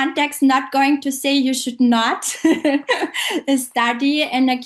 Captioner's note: laughs